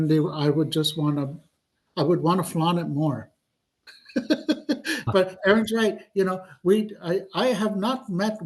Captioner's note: laughs